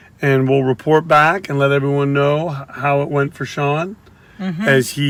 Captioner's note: none